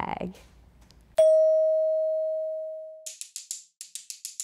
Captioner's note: bell dings; stick percussion sounds